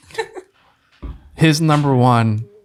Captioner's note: friar laughs